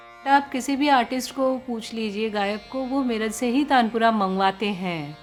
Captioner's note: speaking foreign language